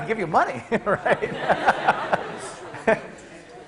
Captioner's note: class laughing